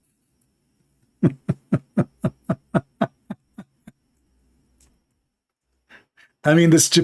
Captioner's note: Ketawa